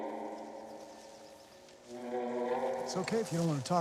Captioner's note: birds chirping